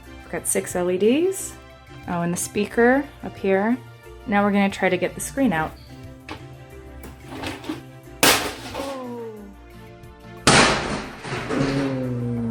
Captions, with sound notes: We got 6 LED Oh and the speaker.. up here Now we're going to try to get the screen out (loud bang) (slo-mo loud bang)